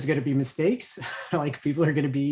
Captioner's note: chuckles